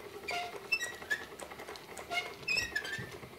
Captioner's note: squeaking